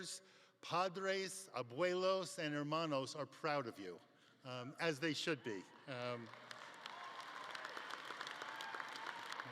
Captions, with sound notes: padres, abuelos, and hermanos are proud of you as they should be. (audience clapping)